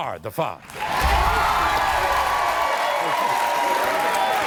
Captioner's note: audience cheering